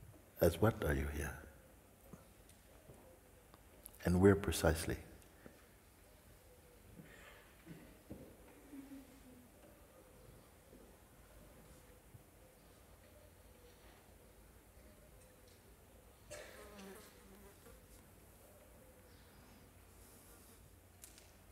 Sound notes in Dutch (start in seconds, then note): 11.0 lange stilte